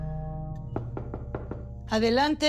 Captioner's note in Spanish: Toques en la puerta